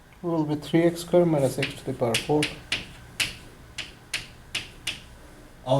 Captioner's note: voiceover